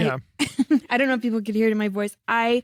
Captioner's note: laughs